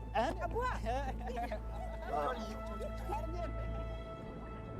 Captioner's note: speaking in foreign language